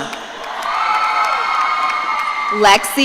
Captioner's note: audience cheering